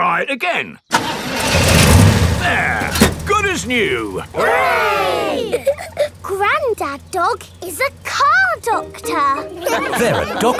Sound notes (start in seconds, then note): 2.0 engine starts